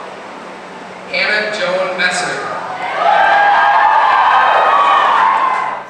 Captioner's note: announcer: - crowd cheers loudly